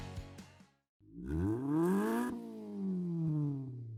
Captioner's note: engine revs